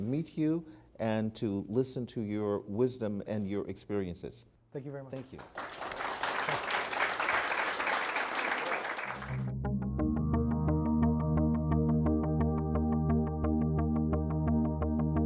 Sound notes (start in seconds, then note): 7.1 applause